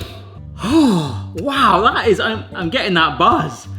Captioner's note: sniffs; sighs